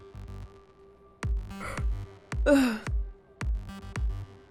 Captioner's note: yawns